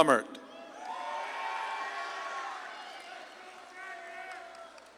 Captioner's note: audience claps and cheers